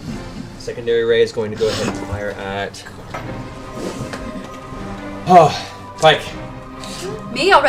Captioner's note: sighs